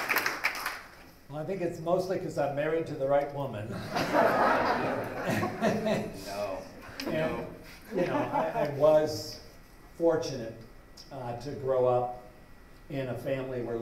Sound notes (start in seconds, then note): 3.7 laughter